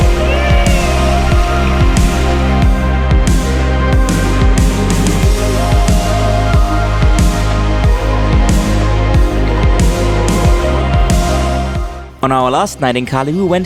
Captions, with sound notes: (happily exclaiming) On our last night in Cali,